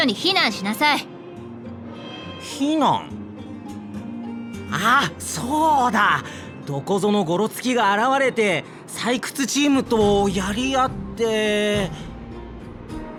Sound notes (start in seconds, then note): 3.6 gasp